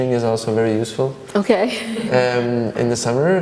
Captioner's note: laughs